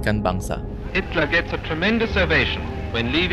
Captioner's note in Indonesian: Penyiar radio: Hitler mendapatkan tepuk tangan meriah